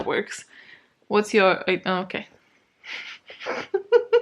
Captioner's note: laughs